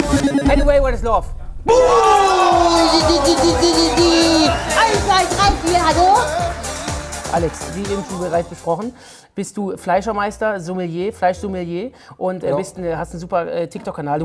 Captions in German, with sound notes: Haddaway, "What Is Love". - Ja. (Freudige Laute) (Jubel, Pfiffe) (verstellt:) Eins, zwei, drei, vier, hallo? Alex, wie bereits besprochen bist die Fleischermeister, Sommelier, Fleisch-Sommelier. - Ja. Und hast einen super TikTok-Kanal.